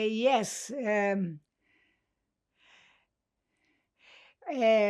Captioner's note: pauses 11 seconds